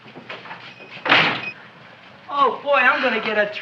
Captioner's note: door slams